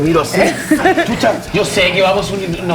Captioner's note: laughs